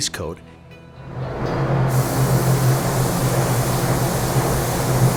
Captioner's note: airbrush spraying